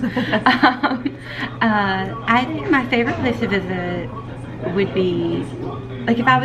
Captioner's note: laughing; laughs